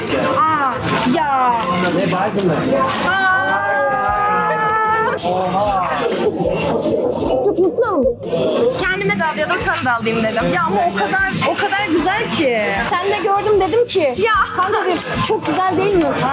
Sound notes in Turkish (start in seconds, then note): 1.0 Konuşma sesleri; 5.2 Konuşma sesleri